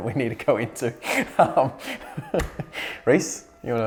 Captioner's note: laughing